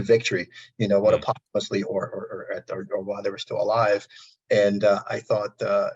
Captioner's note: audio distortion